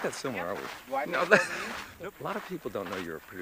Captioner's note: Sean laughs